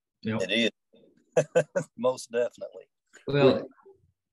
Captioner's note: laugh